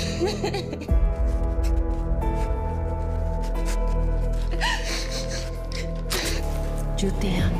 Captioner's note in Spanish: Sollozos